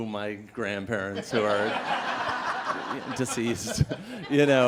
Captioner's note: laughter